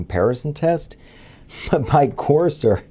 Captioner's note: laugh